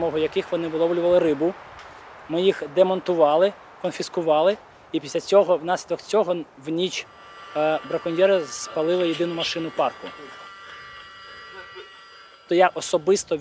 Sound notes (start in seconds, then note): 10.2 car horn screeching